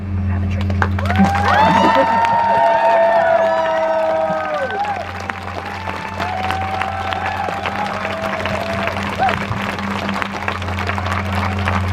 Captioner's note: crowd Cheers